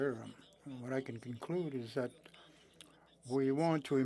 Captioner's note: speaking French